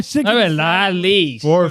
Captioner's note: speaking Foreign Language